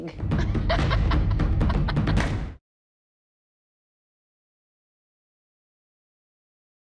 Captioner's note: laughs